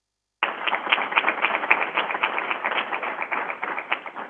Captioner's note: crowd applauding